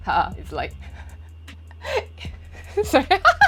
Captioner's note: ownself laugh own joke